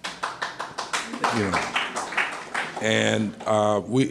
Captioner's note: applause